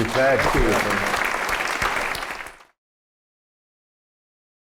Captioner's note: applause